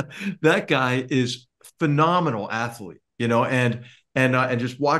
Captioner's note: laugh